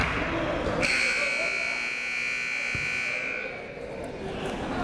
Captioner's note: buzzer blaring